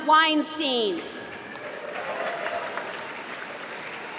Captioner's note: applause